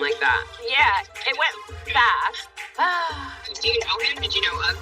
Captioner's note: sighs